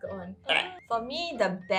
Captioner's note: more puke noises